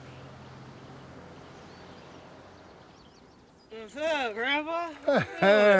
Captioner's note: vehicle humming; birds chirping; chuckles